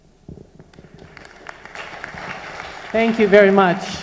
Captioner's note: applause